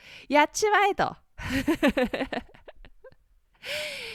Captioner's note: laughs